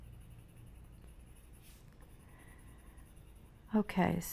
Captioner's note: pencil scratching